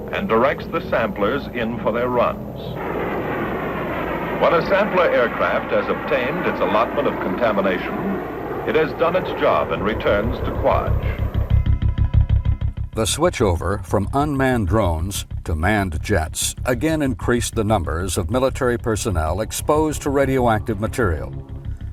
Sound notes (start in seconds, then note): 2.8 plane engine roaring; 10.9 dark intriguing music